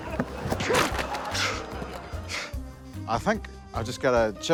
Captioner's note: yells; grunts, huffs